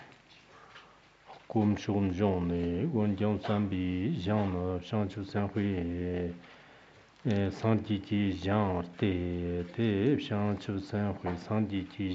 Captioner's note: giving oral transmission in Tibetan